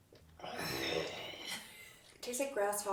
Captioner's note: groaning